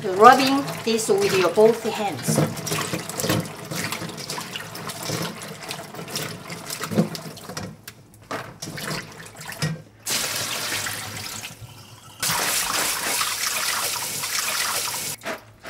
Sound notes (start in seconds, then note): 3.0 water splashing; 10.0 water pouring; 12.4 water flowing